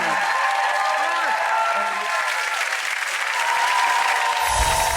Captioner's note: audience applause